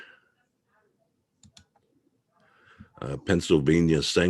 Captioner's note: mouse clicking